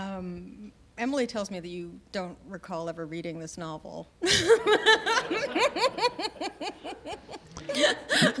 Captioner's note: laughter